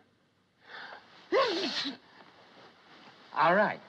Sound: sneezes

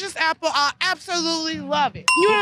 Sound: ding

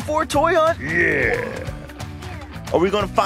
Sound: monster Voice

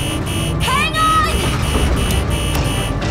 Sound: beeping

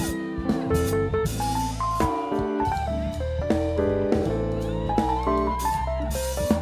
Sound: student whooping; students cheering

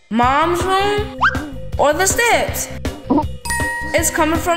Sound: bell dinging

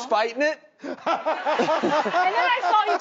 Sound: Drew and audience laughs

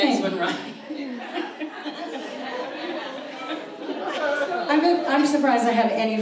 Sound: audience laughs

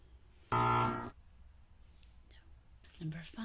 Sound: buzzer sound

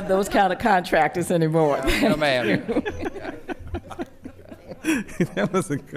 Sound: laughter

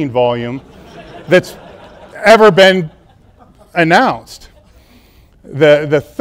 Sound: audience laughing

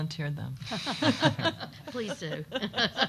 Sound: group chuckling

